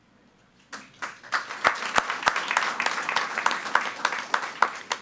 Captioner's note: all applauding